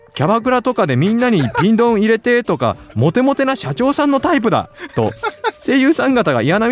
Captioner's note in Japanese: 笑い